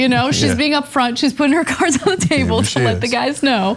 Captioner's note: laugh